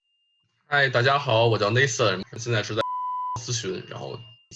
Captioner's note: beep